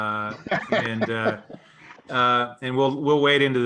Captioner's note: laughs